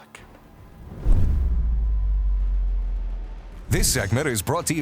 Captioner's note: air whooshes